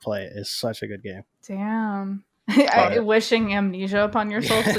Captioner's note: laughs